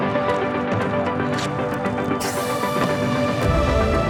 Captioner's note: velcro tearing